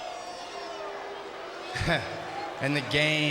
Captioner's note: audience jeers